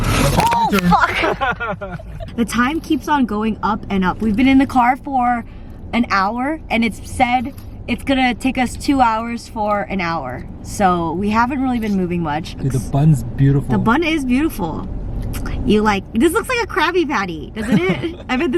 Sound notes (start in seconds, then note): 0.5 laughing